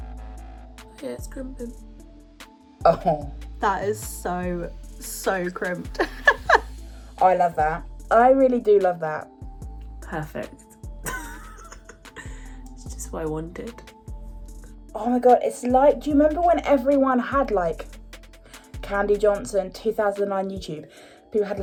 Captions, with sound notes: - Yeah, it's crimping. - Oh. - That is so, so crimped. - I love that. I really do love that. - Perfect (laughs). It's just what I wanted. - Oh my god, it's like, do you remember when everyone had like, Candy Johnson, 2009 YouTube.